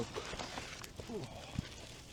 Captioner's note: grunts